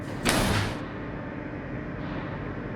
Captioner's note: puerta clangs; maquinaria zumbido; ominosa de la música